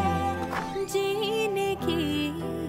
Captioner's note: Door opening